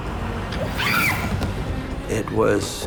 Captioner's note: Cindy screaming